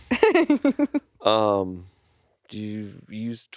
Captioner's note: laughs